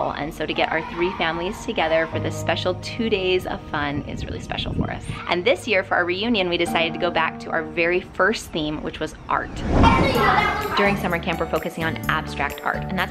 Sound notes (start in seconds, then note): 9.7 children talking